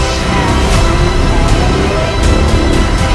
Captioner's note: Godzilla Atomic Breath Charging